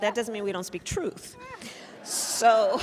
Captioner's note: laughter